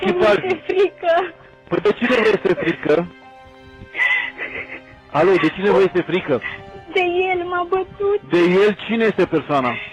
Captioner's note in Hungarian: nevetés